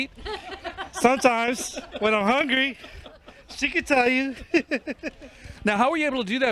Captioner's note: laughter